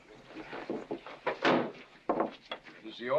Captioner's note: whispering; bang